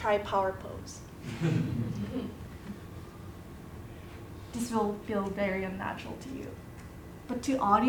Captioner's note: laugh